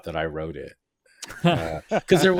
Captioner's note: laughing